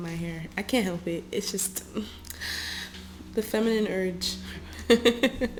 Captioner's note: laughter